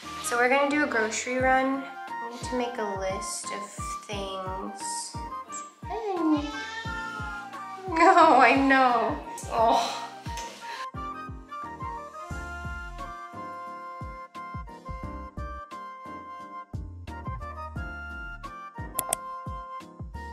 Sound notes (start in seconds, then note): 6.0 meow